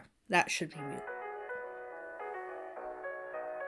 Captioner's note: ringtone plays